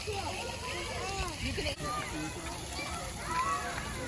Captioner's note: kids playing in splash pad